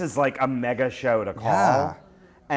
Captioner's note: voiceover